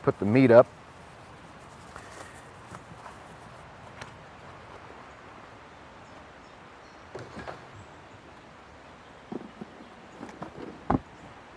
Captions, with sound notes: Let me put the meat up... [ wind rustling ]